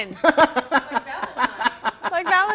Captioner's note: man laughing